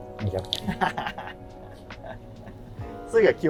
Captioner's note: laughing